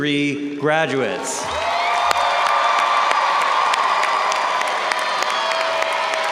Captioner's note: audience cheering and applauding